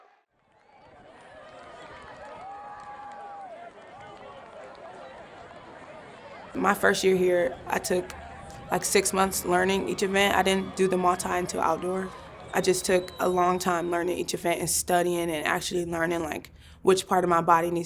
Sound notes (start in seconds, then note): 0.8 crowd claps; 2.0 crowd cheers